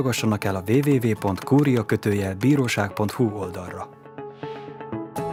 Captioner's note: the clacking sound of keyboard keys; music fading away